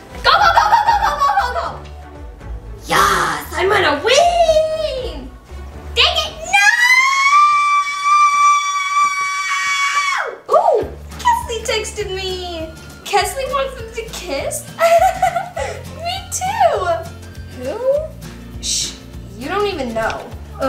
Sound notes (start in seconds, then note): 6.4 screams; 14.7 giggles